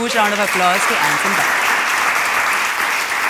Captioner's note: applause